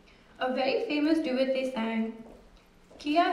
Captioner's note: non-english speech